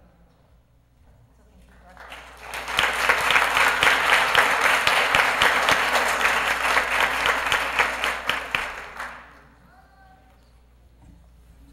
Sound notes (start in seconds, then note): 1.6 applause